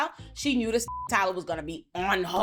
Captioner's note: beep